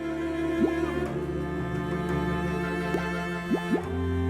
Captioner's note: bubbles popping